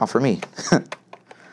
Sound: laugh

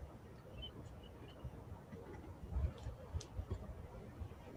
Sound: birds chirping

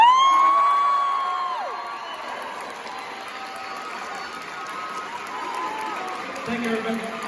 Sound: audience woos, cheers

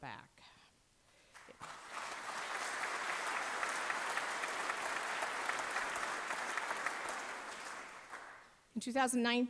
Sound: applause

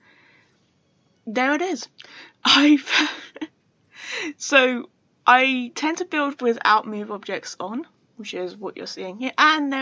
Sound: laughs

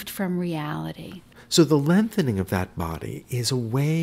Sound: voiceover

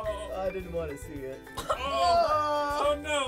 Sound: coughing; groaning

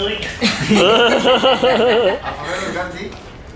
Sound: laughing

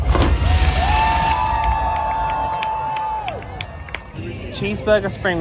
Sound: fireworks whoosh; crowd cheering

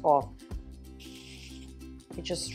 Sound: spritzing

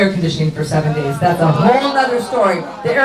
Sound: audience groans

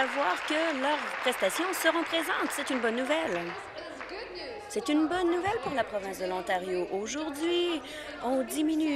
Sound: applause

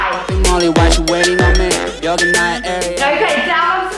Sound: timer beeps

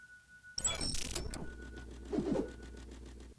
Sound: electronic interference; whooshing

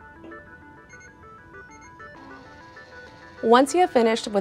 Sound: KR-1 beeping and whirring

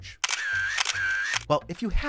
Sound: camera shutter clicks

